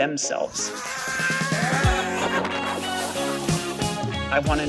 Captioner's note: screaming